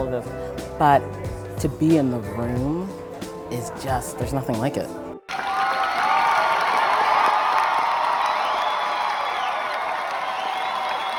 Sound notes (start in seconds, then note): 5.2 cheers and applause